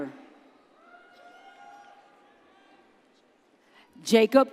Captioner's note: audience cheers